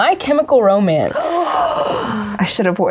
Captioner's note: person gasping